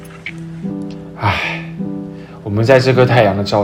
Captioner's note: sigh